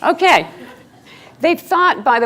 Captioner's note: laughing